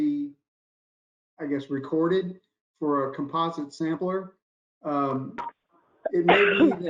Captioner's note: coughs